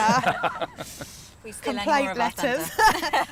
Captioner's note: laughter